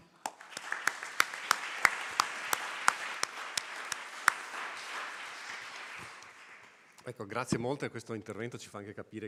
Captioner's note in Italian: Applauso